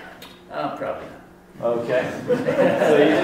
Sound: voiceover; laughter

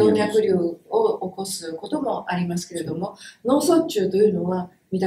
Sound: speaks in Japanese

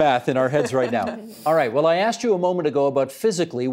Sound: laughter

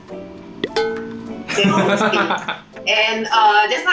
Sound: laughs

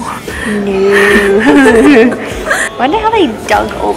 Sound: laughs

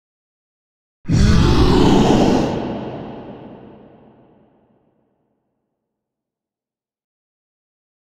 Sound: scary sound

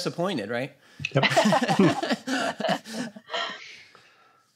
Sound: laughter

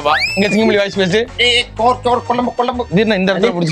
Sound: Imitating Singam Puli sir's voice

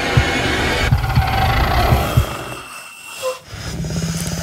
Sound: growling

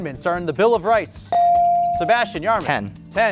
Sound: buzzer pings

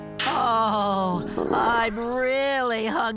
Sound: stomach Growls

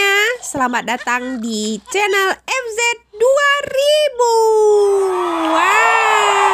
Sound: applause

